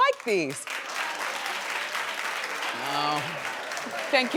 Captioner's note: audience claps